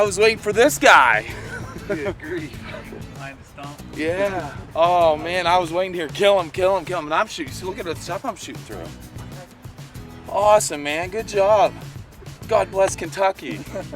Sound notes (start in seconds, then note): 9.6 soft reply